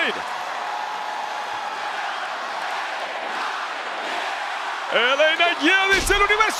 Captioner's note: applause